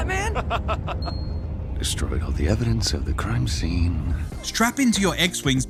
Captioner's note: laughing